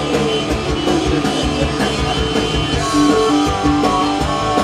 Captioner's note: everyone starts laughing